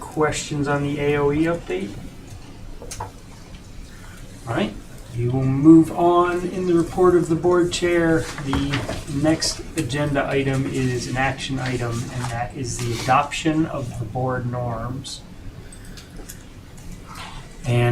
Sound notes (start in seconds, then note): none